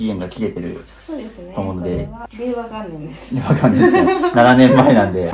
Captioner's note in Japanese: 笑い